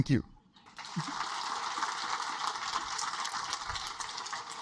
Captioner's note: audience applaud